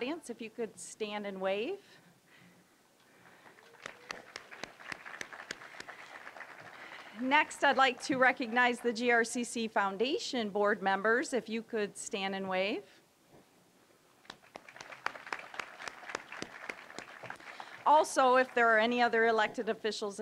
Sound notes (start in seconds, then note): 3.3 applause; 14.2 applause